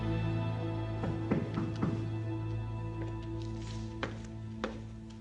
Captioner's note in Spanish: Toques en la puerta